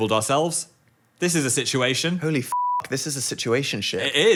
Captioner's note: beeping